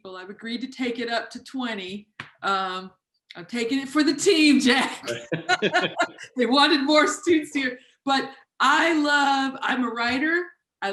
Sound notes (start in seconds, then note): 5.0 laughing